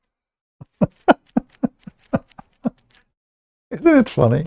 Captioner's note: Ketawa